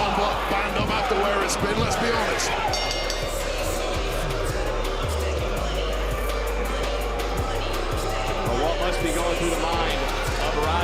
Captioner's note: bell